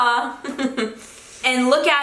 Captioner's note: giggles